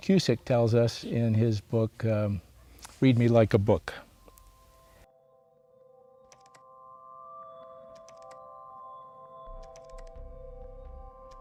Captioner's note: keyboard clicking